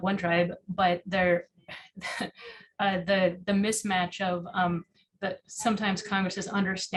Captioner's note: chuckles